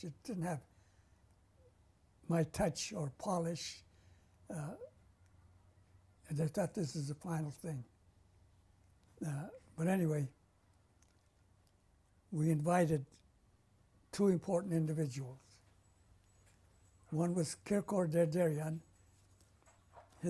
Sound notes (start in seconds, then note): 3.5 pauses for 3 seconds